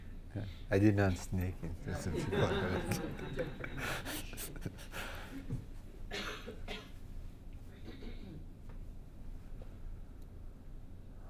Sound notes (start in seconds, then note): 1.9 laughing